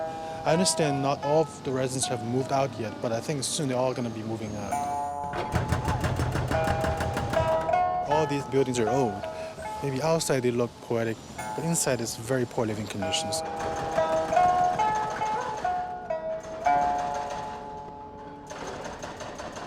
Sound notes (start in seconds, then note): 5.3 hydraulic jackhammer running